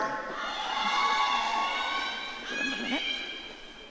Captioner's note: audience cheering